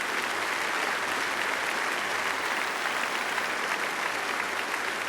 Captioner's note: applause